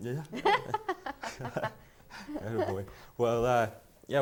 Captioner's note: laughter